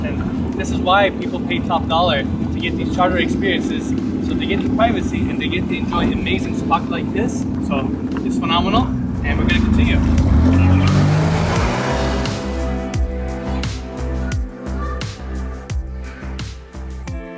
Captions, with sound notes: and this is why people pay top dollar to get these charter experiences. So they get the privacy, and they get to enjoy an amazing spot like this. So it's phenomenal, and we're gonna continue. (engine roaring) (water splashing)